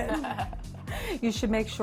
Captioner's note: laughing